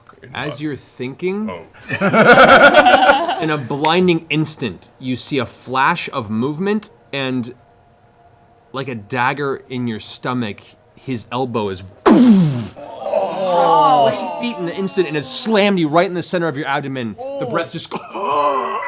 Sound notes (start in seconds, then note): 12.1 impact sound; 12.3 groaning